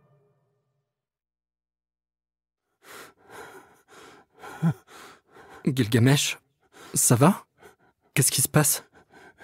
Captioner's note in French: on entend les pleurs de Gilgamesh